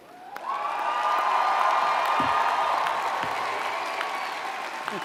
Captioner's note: audience cheers and applauds